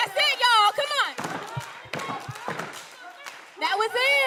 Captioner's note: all clapping